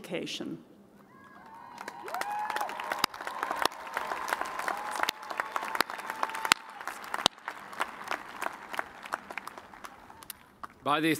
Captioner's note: cheers and applause